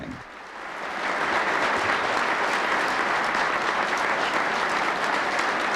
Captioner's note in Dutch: publiek applaudisseert